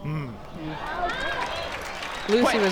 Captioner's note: crowd applauds